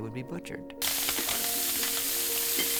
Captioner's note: sizzling